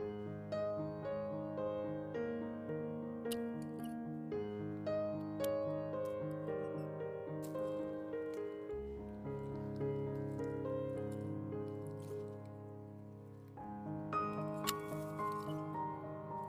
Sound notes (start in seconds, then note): 3.2 snips cutting red Maple twigs